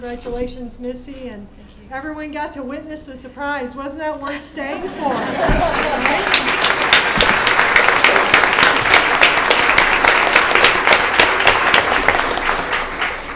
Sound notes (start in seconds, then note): 10.1 applause